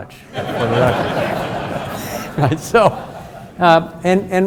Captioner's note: audience laughs